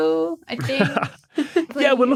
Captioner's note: chuckles